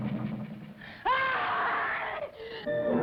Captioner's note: scream